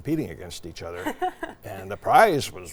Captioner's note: laughing